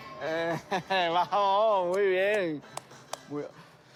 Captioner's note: laughs